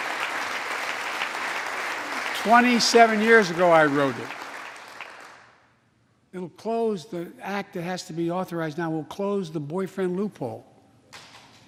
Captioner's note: applause